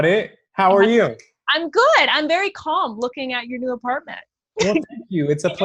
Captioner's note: laughs